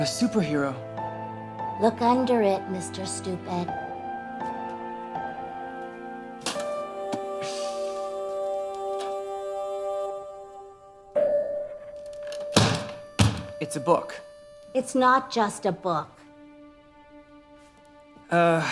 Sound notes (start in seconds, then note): 12.5 slams trunk close; 17.0 gentle music